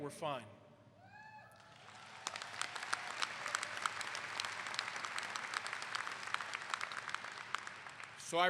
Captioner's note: clapping